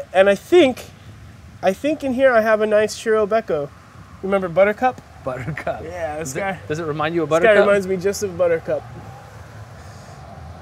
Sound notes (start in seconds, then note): 5.3 laugh